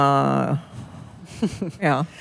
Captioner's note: laughter